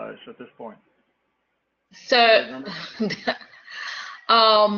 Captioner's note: laugh